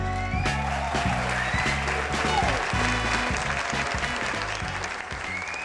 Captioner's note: audience applauding